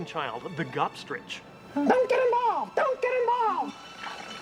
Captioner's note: squawking